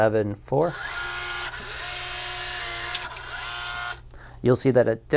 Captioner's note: lock gears moving